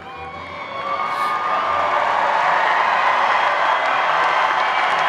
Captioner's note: applause